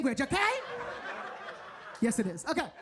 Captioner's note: audience laughing